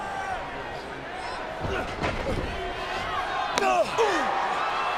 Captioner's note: men grunt; crowd cheers